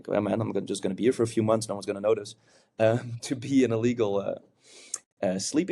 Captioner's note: chuckles